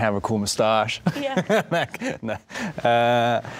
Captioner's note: laughing